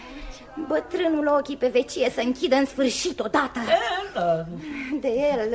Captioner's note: laughter